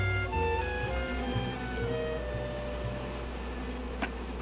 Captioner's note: buzzing